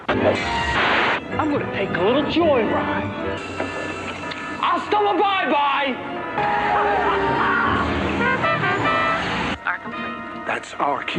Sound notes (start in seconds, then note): 6.2 horn sounds; 6.4 tired screeching; 6.5 Biff laughs